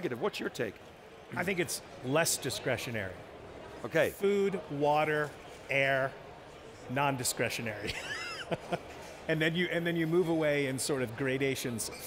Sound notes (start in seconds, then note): 7.9 laughing